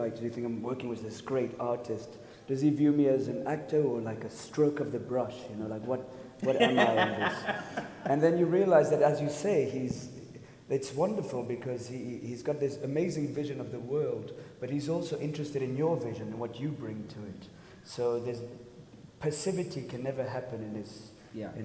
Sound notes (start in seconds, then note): 6.4 laughs